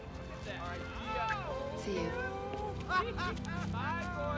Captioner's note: players laughing